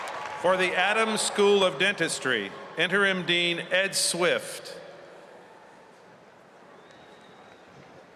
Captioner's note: cheers and applause